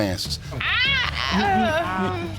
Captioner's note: groans dramatically